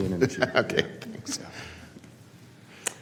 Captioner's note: laughter